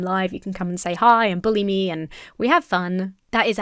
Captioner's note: none